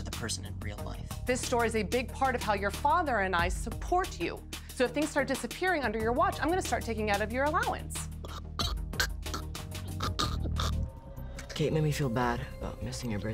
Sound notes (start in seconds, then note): 9.8 gagging